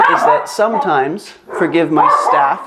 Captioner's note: dogs barking